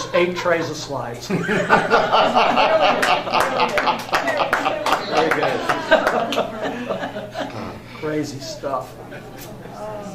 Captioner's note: everyone laughs